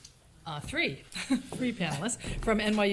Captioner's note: chuckles